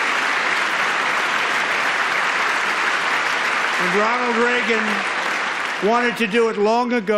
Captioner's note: applause